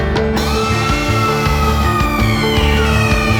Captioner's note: screaming hysterically